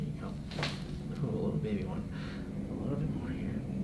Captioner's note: crack